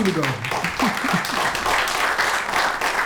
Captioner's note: applause